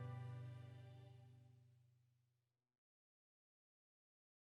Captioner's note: silence